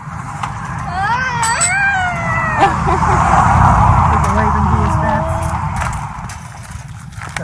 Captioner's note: bike bell rings, vocalizes